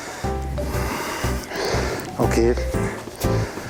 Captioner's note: sniffle